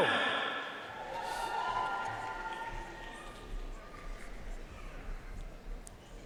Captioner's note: audience cheering and applauding